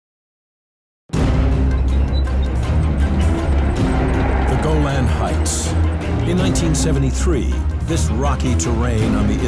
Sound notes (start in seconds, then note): 1.1 dramatic music; 1.3 tanks rumbling